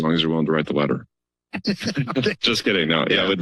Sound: laughter

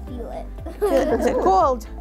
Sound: laughing

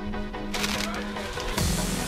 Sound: bag rustling; upbeat music

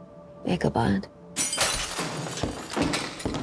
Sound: shatter

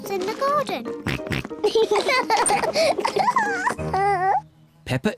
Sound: oinks; both oink and laugh

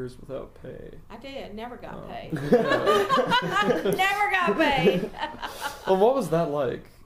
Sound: laugh

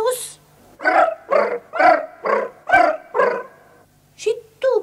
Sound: the cats purr in a melodic chorus

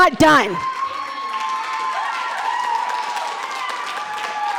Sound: audience cheering

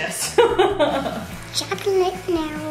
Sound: laughs

